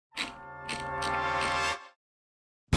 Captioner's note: wheel clicks